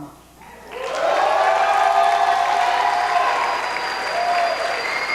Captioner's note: cheering